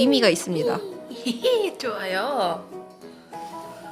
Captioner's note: laugh